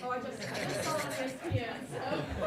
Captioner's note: laughing